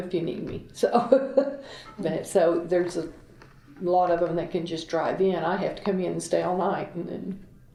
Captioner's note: laughs